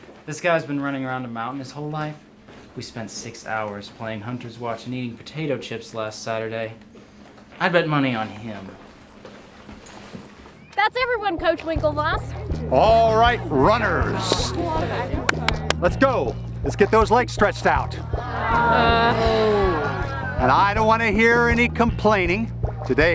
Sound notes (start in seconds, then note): 18.0 students moaning